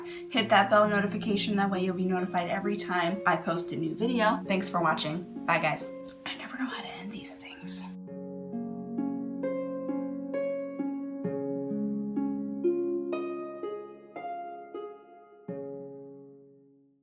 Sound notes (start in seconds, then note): 6.4 whispering; 6.7 music--Wistful Harp